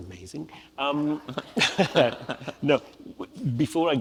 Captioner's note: audience laughs